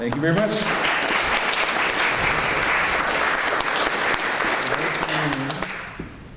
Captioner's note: clapping